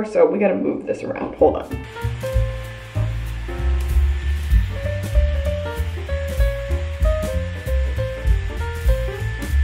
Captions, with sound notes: so we gotta move this around. Hold on. (gentle music) (blow dryer whines)